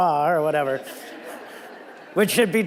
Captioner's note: audience laughing